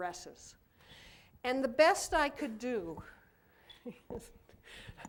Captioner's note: laughter